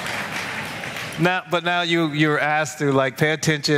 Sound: applause

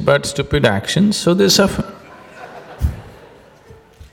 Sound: laughter

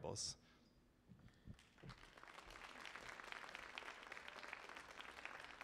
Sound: audience applauding

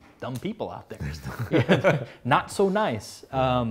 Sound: laughs

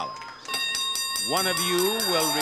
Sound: bell rings

